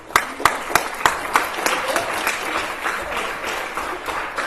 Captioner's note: applause